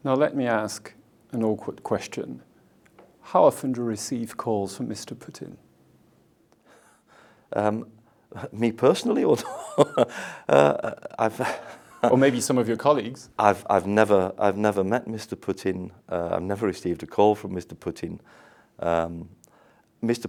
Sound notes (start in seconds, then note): 9.4 laughs